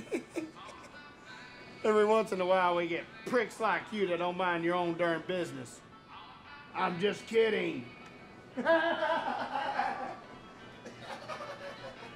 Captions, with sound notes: - (laughs) Every once in a while we get pricks like you that don't mind your own durn business. I'm just kidding. (laughs)